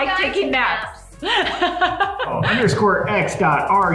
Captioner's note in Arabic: يضحك